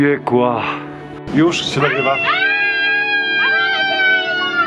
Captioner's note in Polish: krzyk